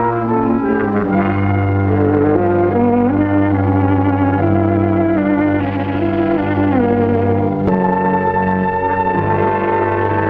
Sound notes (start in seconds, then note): 0.2 dramatic music; 4.5 ominous rattling